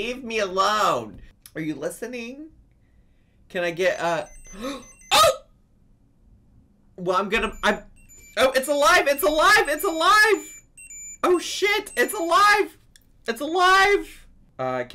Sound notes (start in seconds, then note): 4.2 Tamagotchi beeps; 4.5 gasps; 9.3 Tamagotchi beeps